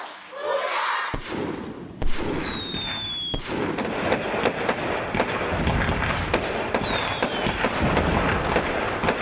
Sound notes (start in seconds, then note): 3.4 exploding fireworks; 8.6 very loud exploding fireworks